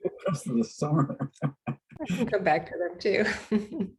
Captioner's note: laughs